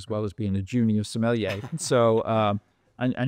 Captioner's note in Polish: śmiech